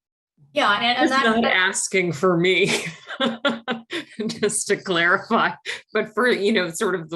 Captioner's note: laughs